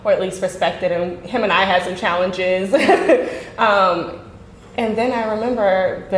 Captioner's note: laughing